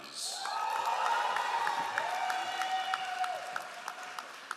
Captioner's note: all applauding